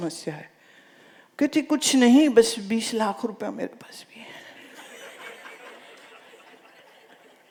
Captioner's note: laughter